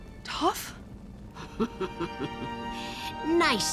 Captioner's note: laughing